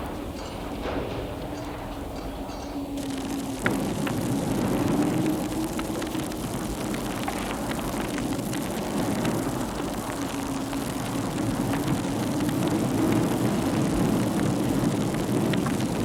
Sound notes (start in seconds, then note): 3.2 fire crackling; 13.1 wind whooshing